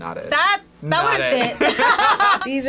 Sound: both laugh

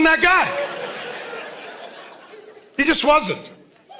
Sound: congregation laughing

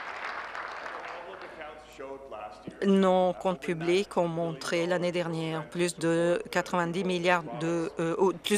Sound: some Applause

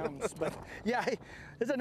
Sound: laughter

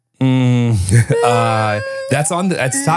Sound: groaning

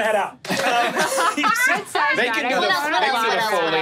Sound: players laughing

